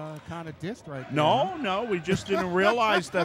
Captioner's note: laughing